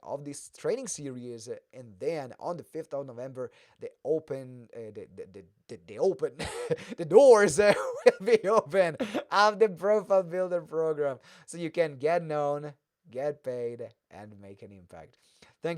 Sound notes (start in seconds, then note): 6.3 laughs